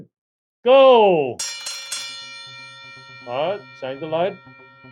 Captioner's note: bell ringing